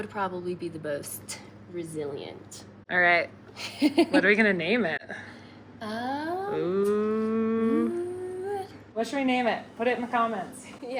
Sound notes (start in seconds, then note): 3.6 laughs